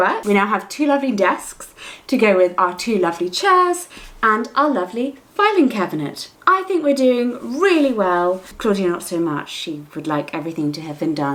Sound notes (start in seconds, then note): none